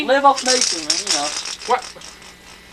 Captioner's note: rattle noises